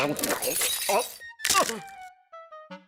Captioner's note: teeth crumbling